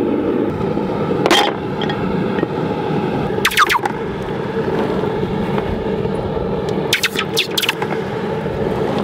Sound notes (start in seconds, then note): 1.3 clinking; 3.5 high pitched sound of hot metal hitting water